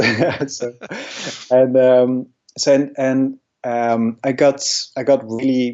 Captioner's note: laughs